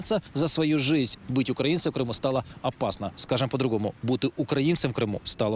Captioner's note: repeats the phrase in Ukrainian